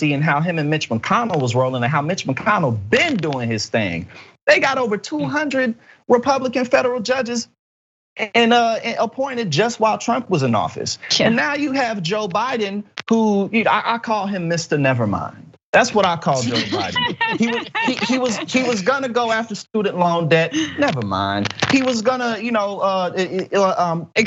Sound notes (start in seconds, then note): 16.3 laugh